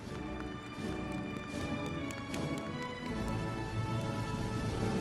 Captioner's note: audience applauding; celebratory music